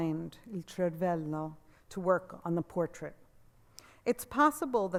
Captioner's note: speaks Italian